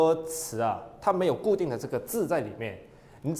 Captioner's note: Cantonese